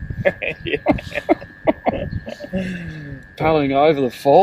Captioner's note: laughing